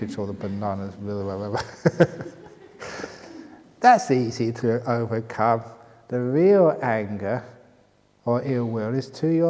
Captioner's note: laughter